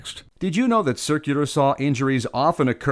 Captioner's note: voiceover